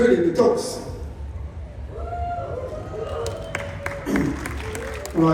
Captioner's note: cheering, Applause